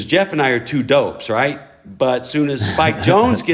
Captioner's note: laughter